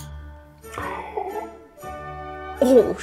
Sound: gasping

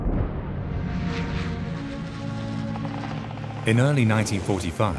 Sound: planes whir

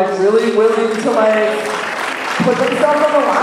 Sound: applause

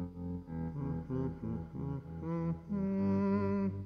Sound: melodic hum

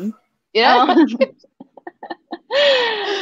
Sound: chuckle

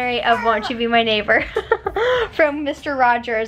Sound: giggles

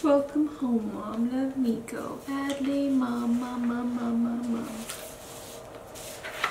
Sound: chart paper shuffling

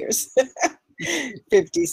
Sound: laughs

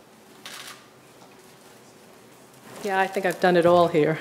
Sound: camera shutter clicks

